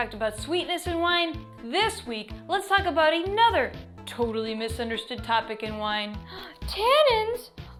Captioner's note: gasp